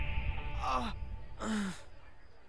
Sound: Roy grunts

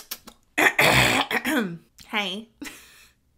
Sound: lips smacking; throat clearing

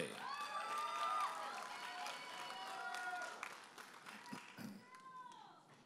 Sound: audience applauding and cheering

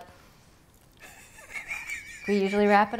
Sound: laughing

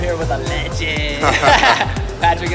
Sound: laughing

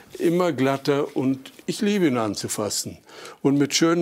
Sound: none

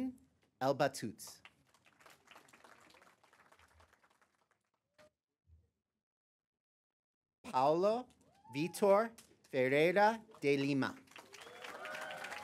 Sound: applause; applause

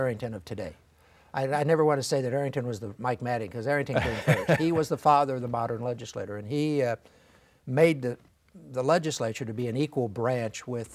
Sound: laughing

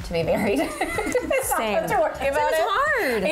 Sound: laughing

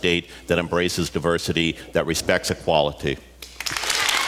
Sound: applause, cheers

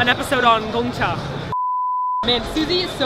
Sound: beep

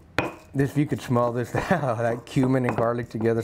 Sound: chuckles

